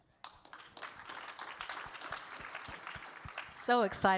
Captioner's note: audience claps